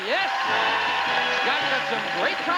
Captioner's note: audience applauding